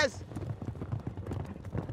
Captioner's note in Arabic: ضربات الحوافر